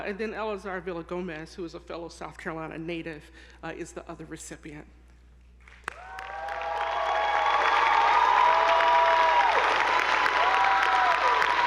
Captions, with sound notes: and then Eleazar Villagomez, who is a fellow South Carolina native, is the other recipient. (attendees applauding) (audience whooping)